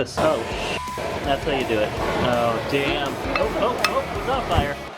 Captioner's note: flame sounds